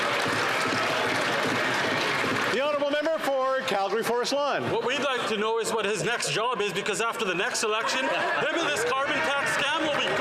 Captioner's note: some Applause